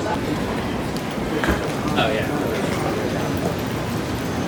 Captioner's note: suitcase rolling